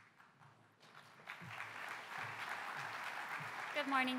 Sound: applause

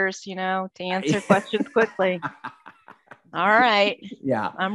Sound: laughing

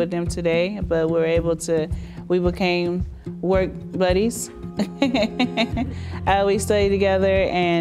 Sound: laughs

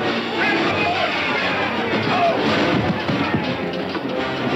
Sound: groaning

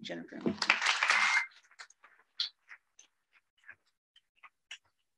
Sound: audience applauding

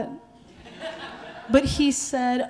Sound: audience laughing

